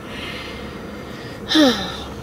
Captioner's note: sigh